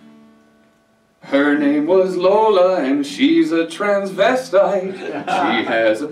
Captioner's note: laughter